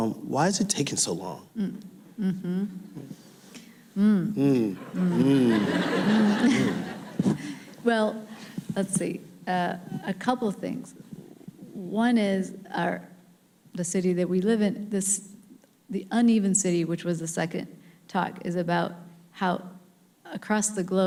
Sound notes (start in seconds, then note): 2.2 humming audibly; 4.4 laughing